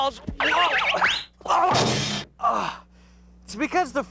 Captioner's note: grunting